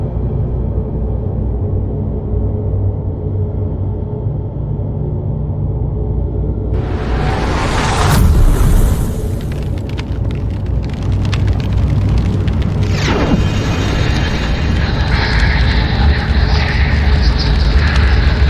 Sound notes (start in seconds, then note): 9.2 fire crackling; 13.4 ominous music